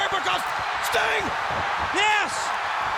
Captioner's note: audience cheers